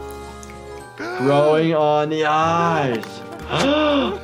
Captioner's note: gasps